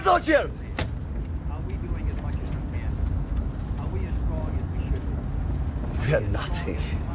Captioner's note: man speaking on radio